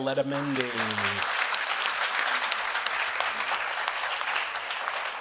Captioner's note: audience applauding